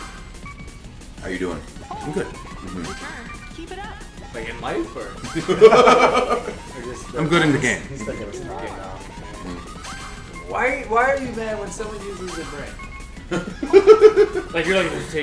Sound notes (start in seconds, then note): 5.2 laugh